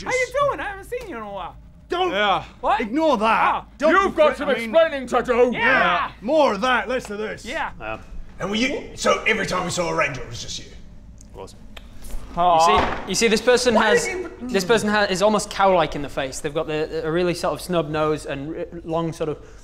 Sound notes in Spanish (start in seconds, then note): 12.5 Golpe de puño